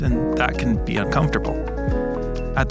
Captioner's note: none